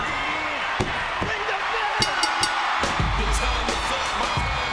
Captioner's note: bell rings